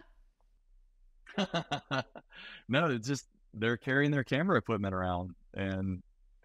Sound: laughing

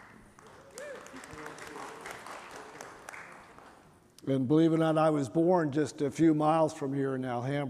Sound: applause

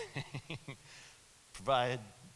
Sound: laughs

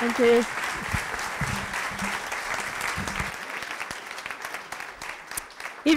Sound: applause

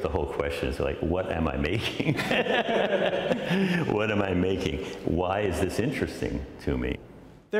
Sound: laughter

